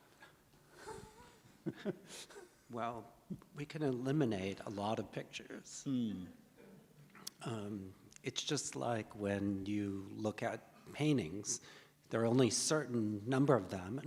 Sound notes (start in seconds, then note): 0.8 chuckles